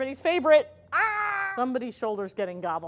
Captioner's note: shouts softly